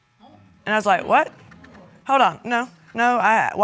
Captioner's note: stammering